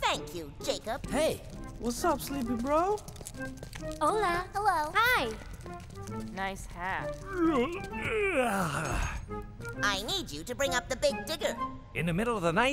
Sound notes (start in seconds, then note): 7.3 yawns